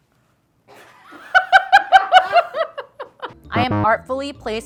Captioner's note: laughs